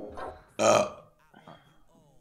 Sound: burps

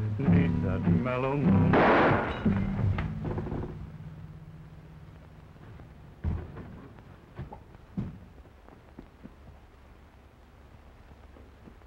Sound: gunshot

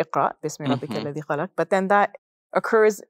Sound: foreign language

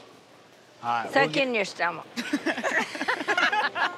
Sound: laughter

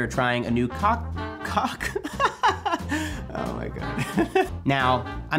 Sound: laughs

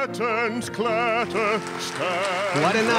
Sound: applause

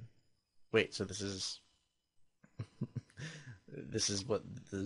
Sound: chuckles

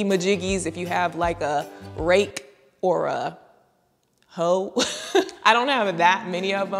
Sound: laughs

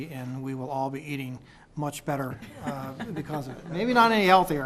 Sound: laughter

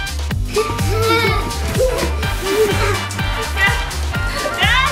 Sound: laughter

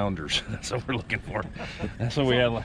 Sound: chuckling

